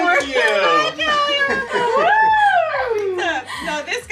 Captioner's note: family celebrating